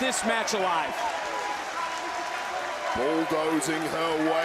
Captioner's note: applause